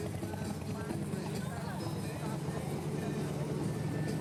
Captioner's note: engines whirring